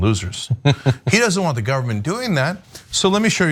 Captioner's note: laugh